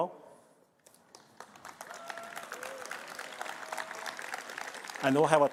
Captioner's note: applause